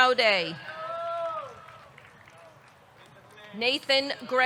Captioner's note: audience cheering; audience clapping